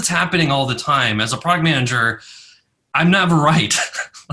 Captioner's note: laughs